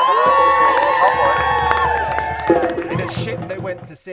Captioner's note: crowd cheers